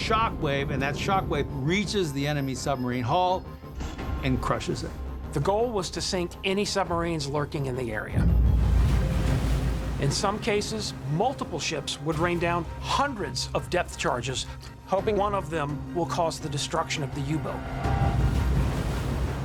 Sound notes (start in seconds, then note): 7.9 water splashing; 8.2 explosion blasts; 16.7 water splashing; 18.0 explosion blasts